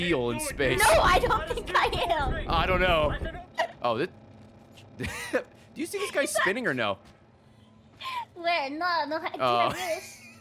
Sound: laughs

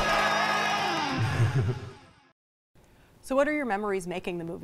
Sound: laughs

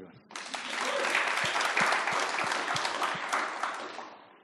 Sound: audience applauds

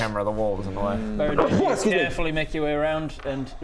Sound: atchoo!

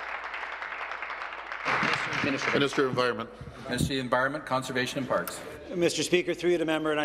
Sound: applause

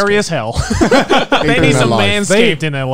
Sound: all laughing

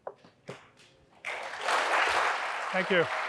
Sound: audience applauding

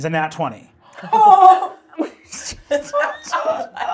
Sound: laughs

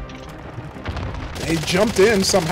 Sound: gunshots

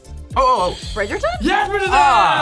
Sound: buzzer rings

